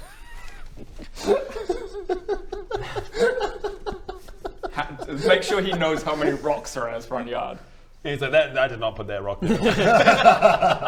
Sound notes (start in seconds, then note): 0.0 laughs